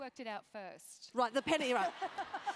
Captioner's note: laugh